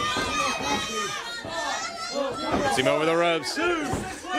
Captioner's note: crowd chatter